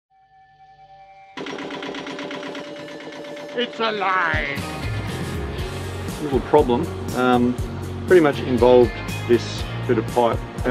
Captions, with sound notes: (boat motor puttering) - It's alive! (rock music) Little problem. Pretty much involved this bit of pipe,